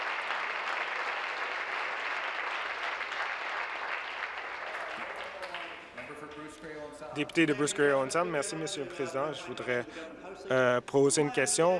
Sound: some Applause

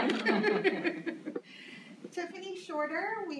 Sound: laughs

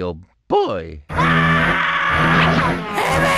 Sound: le Justin Bieber screaming

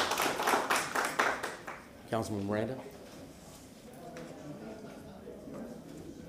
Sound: applause

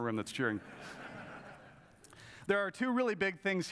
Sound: audience laughs

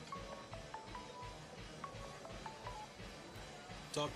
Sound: cell phone ringing

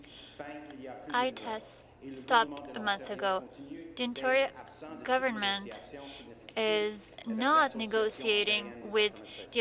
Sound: speaking French

